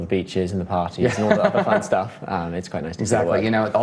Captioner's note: laughs